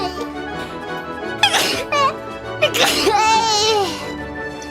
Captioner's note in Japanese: くしゃみ; くしゃみ